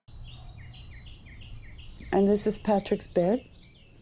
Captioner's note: birds chirping